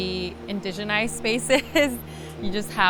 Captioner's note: laughs